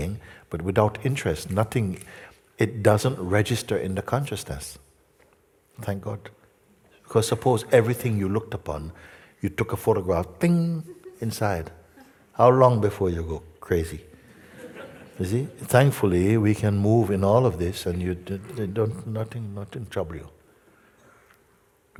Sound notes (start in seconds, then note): 14.2 laughter